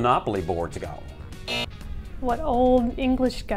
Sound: buzzer

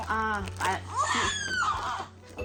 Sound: waaaah

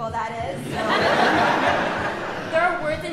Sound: audience laughing

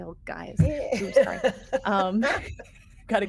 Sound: person laughing

